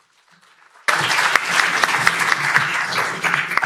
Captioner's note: applause